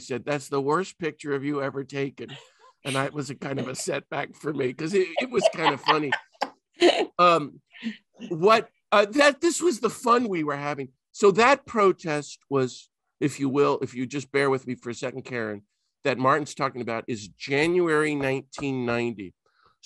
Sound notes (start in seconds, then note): 6.6 laughing